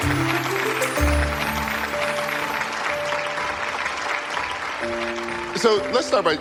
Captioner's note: audience clapping